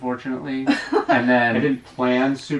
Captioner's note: laughs